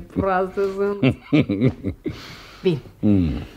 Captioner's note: laughs